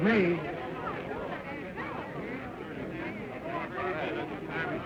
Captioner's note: crowd chatter